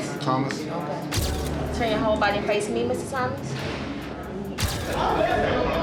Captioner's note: flash pops; flash pops; inmates yelling